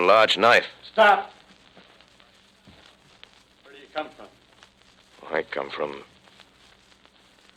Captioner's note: off mike